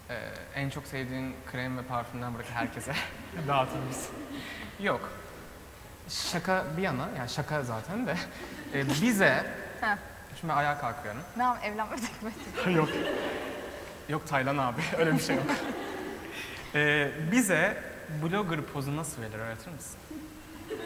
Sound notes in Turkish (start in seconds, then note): 14.7 gülüşmeler